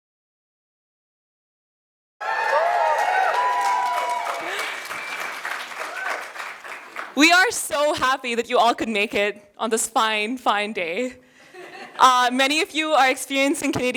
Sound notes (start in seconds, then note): 5.6 cheers and applause